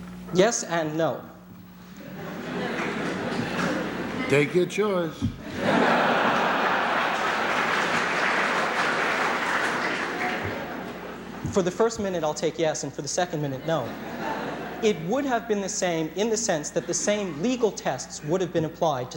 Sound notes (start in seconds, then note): 2.0 laughter; 5.4 laughter; 6.3 applause